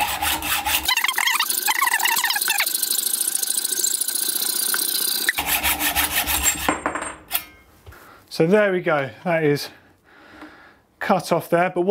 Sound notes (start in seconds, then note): 0.0 sped up, high-pitched sawing; 6.2 tube clattering onto floor